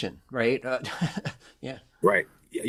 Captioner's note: chuckles